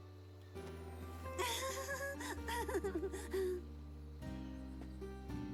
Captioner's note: nervous chuckle